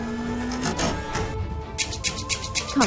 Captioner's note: door opening sound; click - click